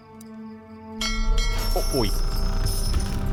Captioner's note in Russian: Звук корабельного колокола